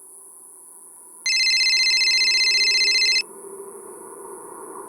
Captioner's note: cell phone ringing